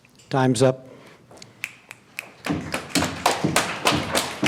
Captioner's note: applause